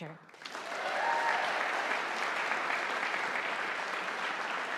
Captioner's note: audience applauding